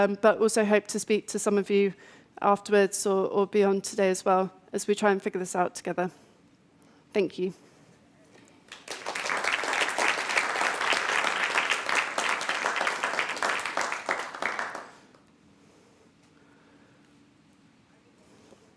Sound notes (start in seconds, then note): 8.6 audience applauds